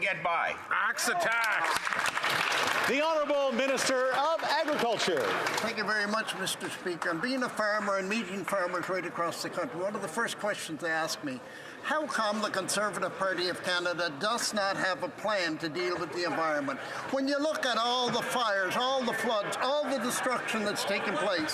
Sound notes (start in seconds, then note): 6.9 some Applause